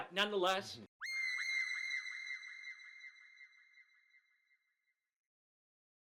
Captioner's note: high-pitched screaming tone